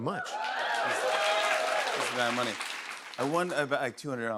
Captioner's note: cheers and applause